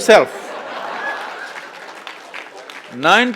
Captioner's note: laughter/Applause